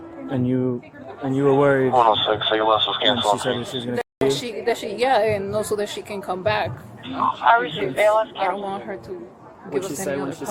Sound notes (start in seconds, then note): 1.9 radio chatter; 7.0 radio chatter